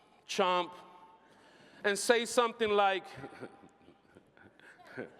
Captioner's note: snickering